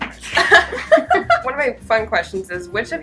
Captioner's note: laughs